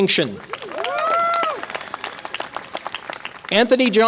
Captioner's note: audience applause and cheer